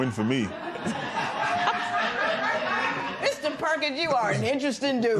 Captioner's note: laughter